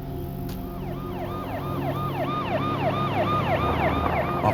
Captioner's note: sirens